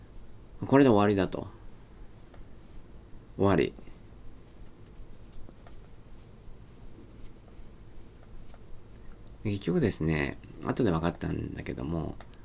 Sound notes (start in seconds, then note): 4.3 cute cat scratching noises